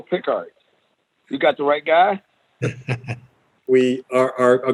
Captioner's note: laughter